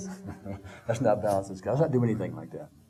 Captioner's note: laughing